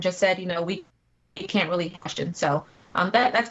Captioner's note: technical interference